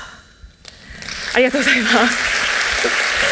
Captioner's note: applause